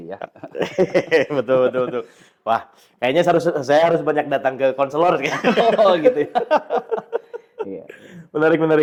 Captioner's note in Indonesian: tertawa